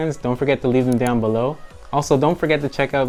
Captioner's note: button clicking